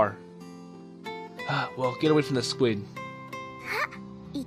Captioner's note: sigh